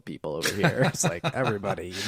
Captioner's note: laughing